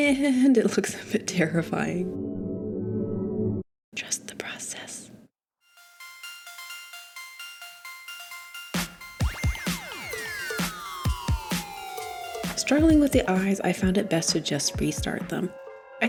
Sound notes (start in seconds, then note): 1.8 eerie music rises; 3.8 whispers